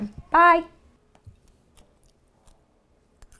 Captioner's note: eating